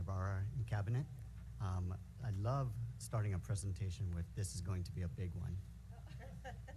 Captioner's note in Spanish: risas